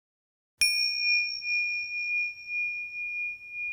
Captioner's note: bell rings